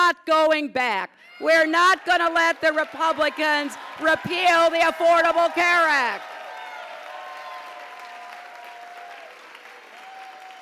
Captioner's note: applause